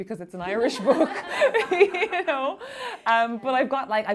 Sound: laughing

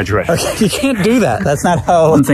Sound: laughs

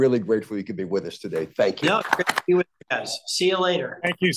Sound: HKS attendees applauding

